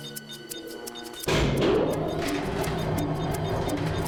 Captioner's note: device beeping; fan whirring